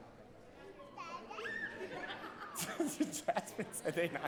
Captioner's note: laughs